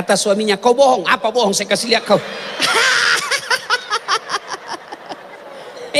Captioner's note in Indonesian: tertawa